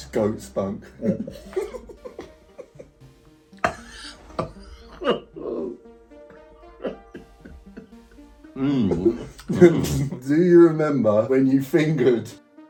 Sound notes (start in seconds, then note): 3.5 coughing and laughing